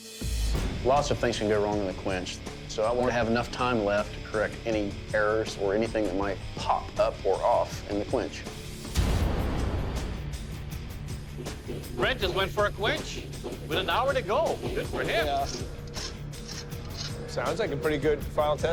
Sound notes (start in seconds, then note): 8.4 dramatic rock music playing; 14.7 scraping